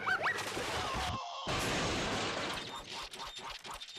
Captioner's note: crashing